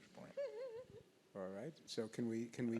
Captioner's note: laughs